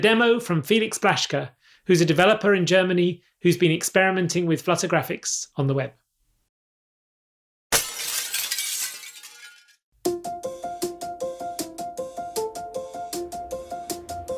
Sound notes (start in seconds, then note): 7.7 glass shattering; 10.1 upbeat music